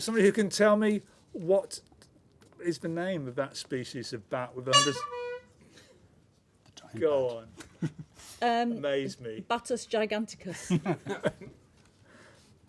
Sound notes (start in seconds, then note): 4.7 honk